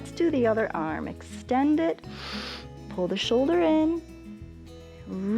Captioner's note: inhales